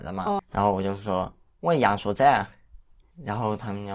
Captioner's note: speaking Yangshuo dialect